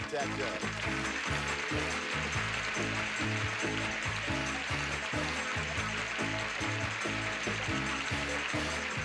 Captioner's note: audience applauding